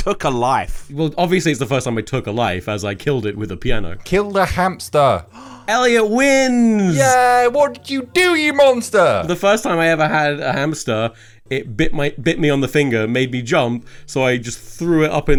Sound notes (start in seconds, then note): 5.2 gasps